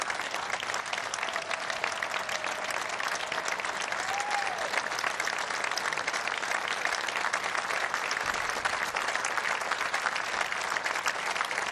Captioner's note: applause